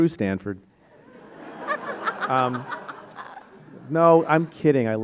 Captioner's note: audience laughing